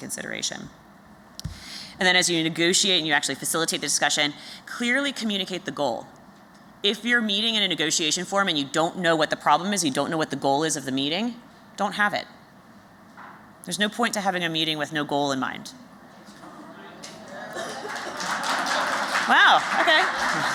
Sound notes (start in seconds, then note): 16.5 laughter; 17.0 applause